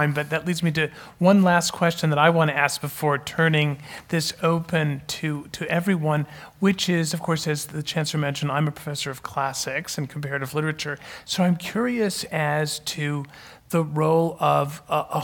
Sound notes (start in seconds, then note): none